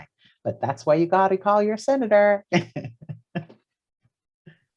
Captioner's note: laughs